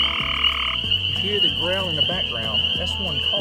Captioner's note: frog chirping